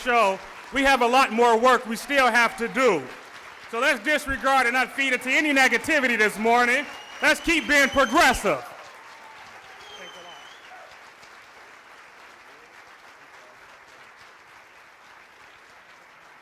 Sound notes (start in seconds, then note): 9.3 applause